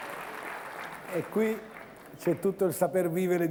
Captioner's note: Applauso